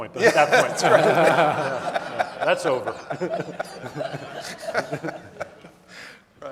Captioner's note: audience laughing